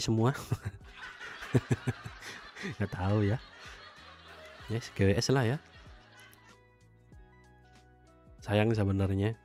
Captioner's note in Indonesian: tertawa